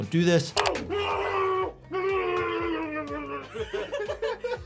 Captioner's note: Ian yelling; Smosh cast laughing